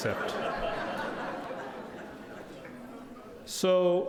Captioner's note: audience laughing